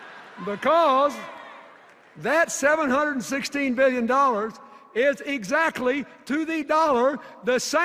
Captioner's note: laughter